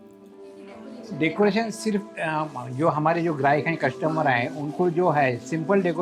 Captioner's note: speaking foreign language